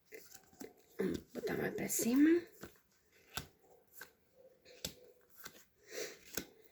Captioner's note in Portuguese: limpando a garganta